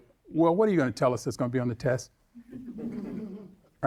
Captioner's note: audience laughing